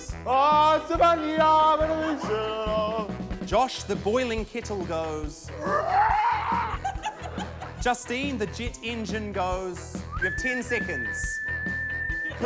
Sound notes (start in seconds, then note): 5.5 imitates creaking; 5.6 laughter; 10.0 whistles